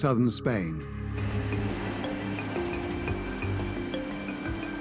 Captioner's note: breaking waves